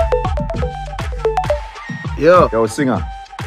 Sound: phone rings

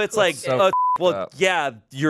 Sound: beep

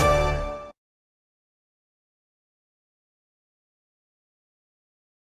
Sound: upbeat orchestral music; silence

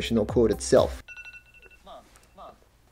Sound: ringtone

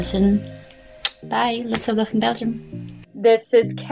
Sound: kiss

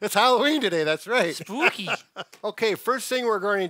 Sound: laughs

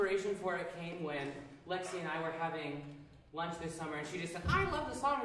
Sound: imitating Lexi’s voice

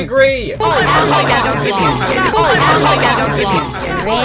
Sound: group complaining

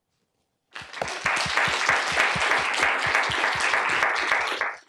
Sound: applause

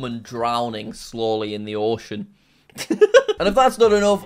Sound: laughs

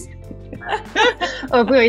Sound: both laughing

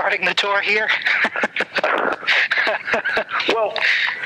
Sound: laughs

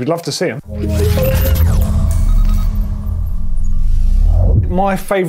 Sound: electronic beeping

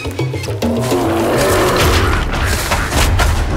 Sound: growling; dramatic music

